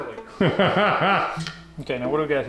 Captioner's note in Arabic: يضحك